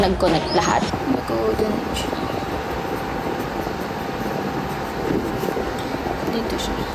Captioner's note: audio distorted by wind